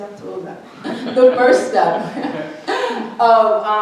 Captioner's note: laughs